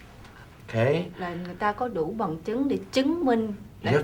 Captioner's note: speaking vietnamese; speaking vietnamese